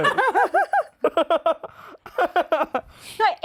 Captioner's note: laughs in nerd